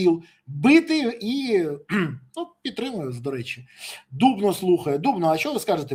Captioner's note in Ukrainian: прочищення горла